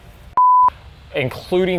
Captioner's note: digital beeping